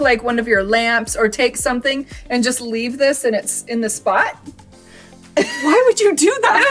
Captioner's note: laughs